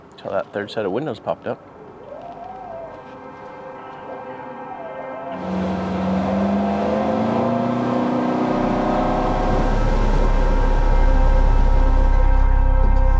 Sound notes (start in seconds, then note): 5.3 boat engine humming; 10.3 intense music